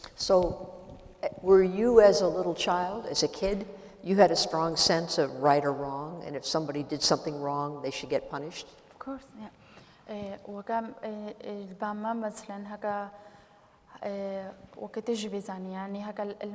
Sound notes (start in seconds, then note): 10.1 speaking kurdish